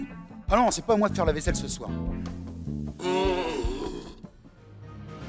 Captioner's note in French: soupir